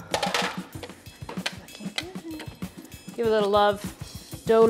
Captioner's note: pan clangs on counter